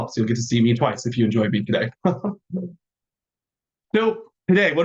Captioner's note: chuckling